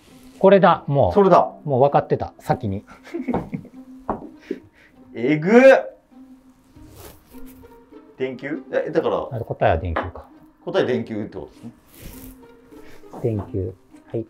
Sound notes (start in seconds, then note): 2.9 laughing